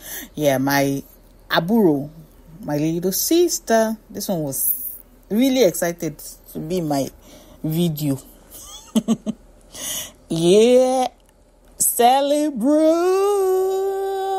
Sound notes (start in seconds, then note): 8.6 laughs